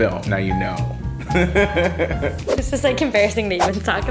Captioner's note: laughter